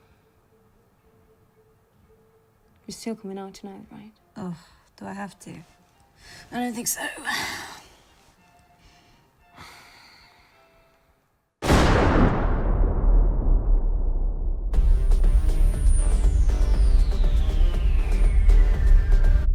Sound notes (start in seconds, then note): 0.1 bright orchestral music; 11.6 gun fires